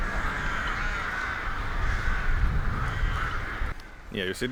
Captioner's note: crows cawing